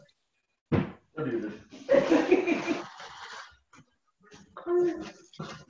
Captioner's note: laughing